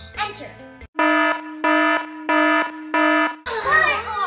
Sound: alarm sounding

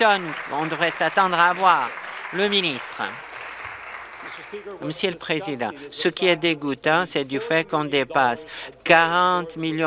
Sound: applause

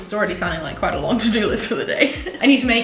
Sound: chuckles

